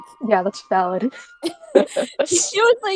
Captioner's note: laughter